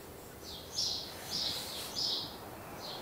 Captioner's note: birdsong